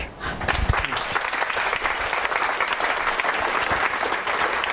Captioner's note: audience claps